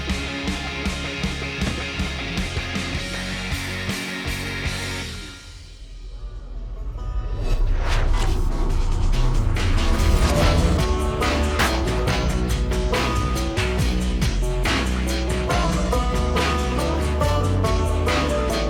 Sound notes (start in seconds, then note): 7.8 whip cracking; 10.0 twangy country music